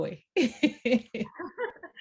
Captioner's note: laughter